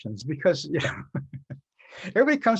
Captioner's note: laughing